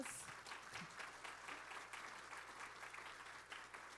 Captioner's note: applause